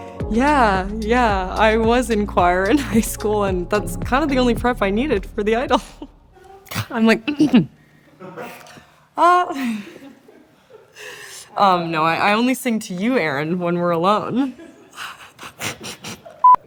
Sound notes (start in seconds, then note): 8.2 clears throat; 9.4 laughing; 14.4 chuckling